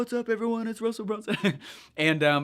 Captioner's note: laughs